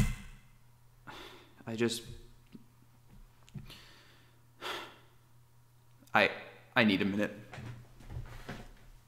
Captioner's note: sigh